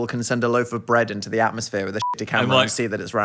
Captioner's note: beep